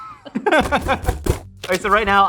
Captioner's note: laughing; box closing